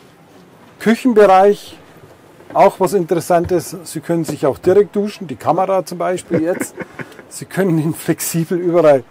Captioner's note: laughter